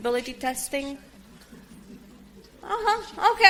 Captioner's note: crowd murmuring softly